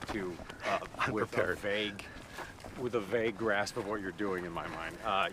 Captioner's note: laughs